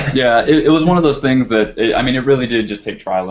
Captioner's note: laugh